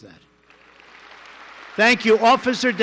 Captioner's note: applause